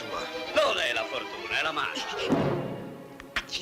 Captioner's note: laughing